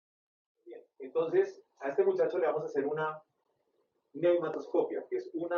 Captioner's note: professor speaking Spanish